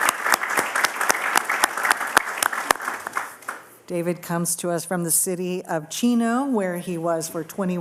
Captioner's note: applause